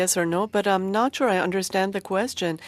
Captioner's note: speaking in French